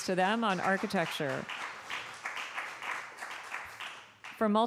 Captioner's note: applause